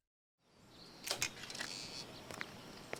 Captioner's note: door Creaking